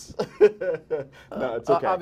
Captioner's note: laughter